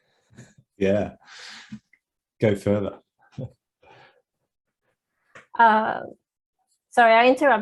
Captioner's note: chuckles